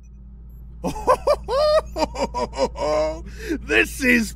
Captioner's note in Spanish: Riéndose